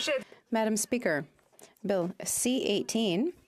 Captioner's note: speaking in French